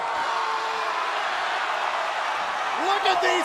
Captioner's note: screaming